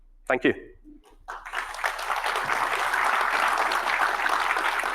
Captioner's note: audience applauding